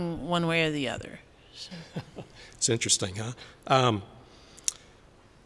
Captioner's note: laughter